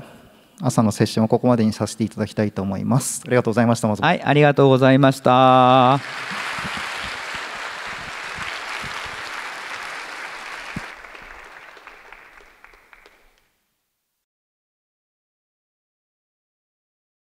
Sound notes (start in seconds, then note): 5.4 applause